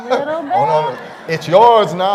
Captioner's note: laughter